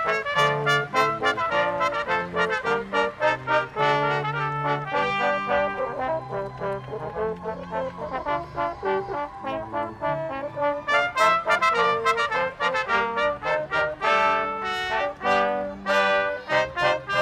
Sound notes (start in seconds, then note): 6.5 audience applauding; 11.5 brass quintet music continues